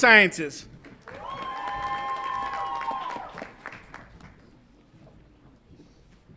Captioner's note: audience applauds and cheers